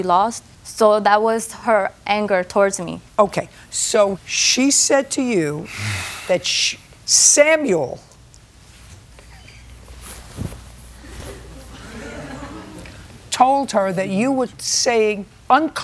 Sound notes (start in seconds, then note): 11.0 laughter